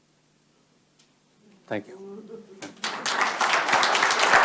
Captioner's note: applause